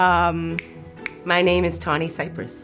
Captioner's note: fingers snapping